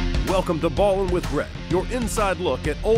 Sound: voiceover

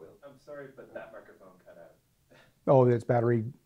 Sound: voiceover

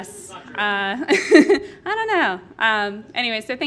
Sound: laughs

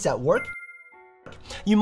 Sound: tone dings

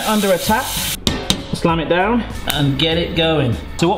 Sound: pot slams

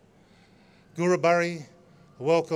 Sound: non-english speech

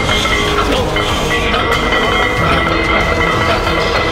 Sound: metal clanging

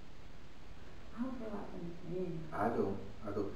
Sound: whispers

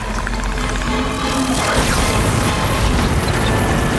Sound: zapping

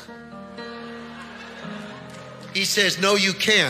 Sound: congregation laughing

